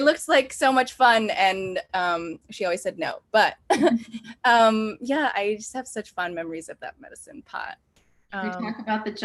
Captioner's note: laughs